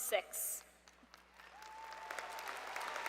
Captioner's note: applause